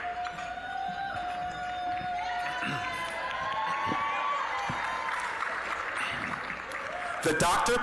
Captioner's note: applause; applause, cheering